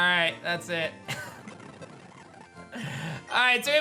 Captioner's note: giggles